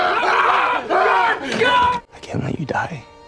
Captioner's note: panicked yelling